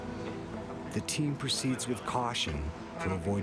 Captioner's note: voiceover